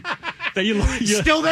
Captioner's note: laughing